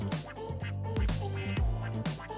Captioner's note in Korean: 찰싹